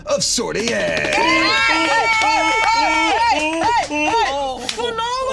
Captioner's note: all cheering